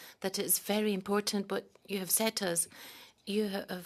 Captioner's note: speaking French